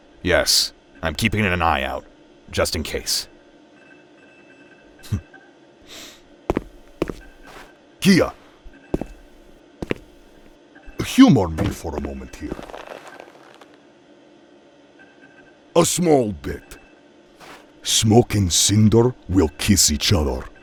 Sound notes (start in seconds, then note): 5.0 Heavy Guy snickers once